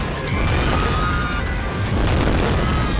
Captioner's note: screaming